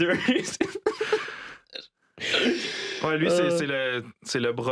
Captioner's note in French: rires